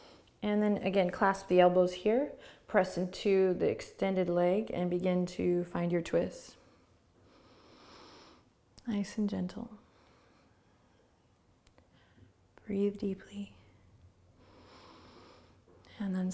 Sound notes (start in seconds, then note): 7.1 inhaling; 14.4 breathing